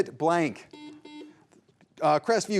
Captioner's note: buzzer buzzing